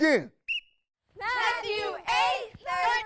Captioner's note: whistle blows